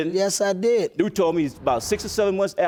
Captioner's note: none